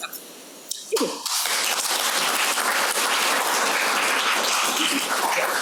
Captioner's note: audience applauding